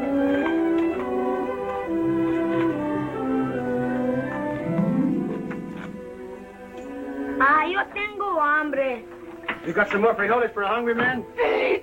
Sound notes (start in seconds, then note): 7.2 Spanish spoken audio